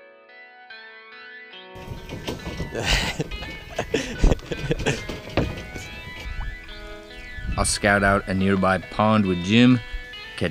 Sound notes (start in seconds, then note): 2.3 laughing